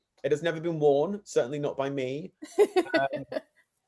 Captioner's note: laughs